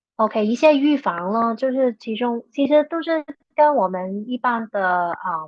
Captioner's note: speaking chinese